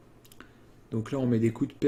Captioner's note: inhale softly